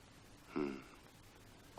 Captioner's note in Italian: sbuffare